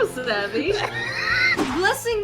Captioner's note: wheeze